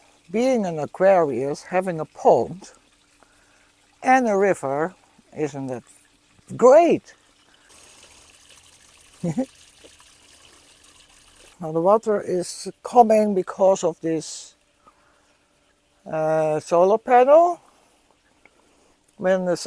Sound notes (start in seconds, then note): 0.0 running water; 7.7 trickling water